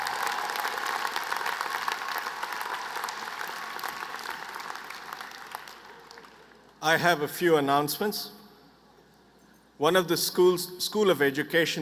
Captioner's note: applause